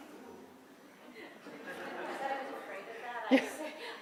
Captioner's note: murmuring